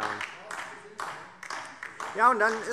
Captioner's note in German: Beifall DIE LINKE - Zurufe CDU und BÜNDNIS 90/DIE GRÜNEN